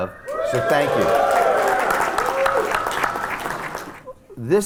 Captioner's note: cheers and applause